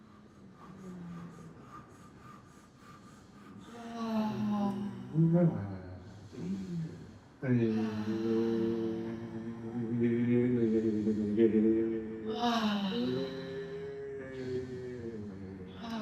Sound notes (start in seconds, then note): 3.5 sighing; 5.1 humming